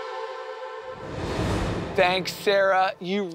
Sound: air whooshing

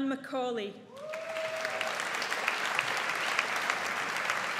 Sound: audience applauds

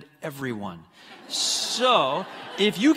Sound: congregants laughing

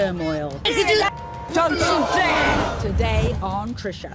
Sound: women yelling

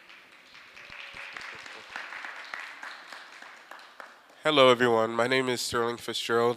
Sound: applause

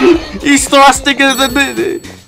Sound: confused noise

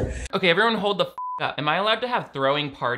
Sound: beep

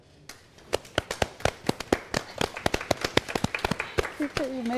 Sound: all clapping

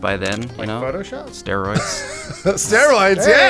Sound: inquisitively; wheeze laughs

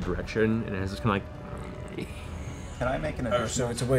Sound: soft snarl

